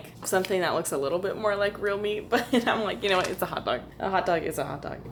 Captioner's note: laughter